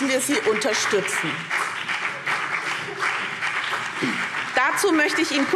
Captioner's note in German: Beifall BÜNDNIS 90/DIE GRÜNEN und vereinzelt CDU